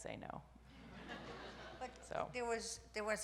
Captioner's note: audience laughs